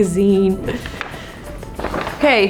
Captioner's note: paper rustling